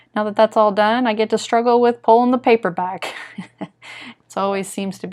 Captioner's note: chuckles